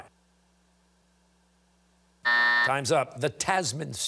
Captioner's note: buzzer sounding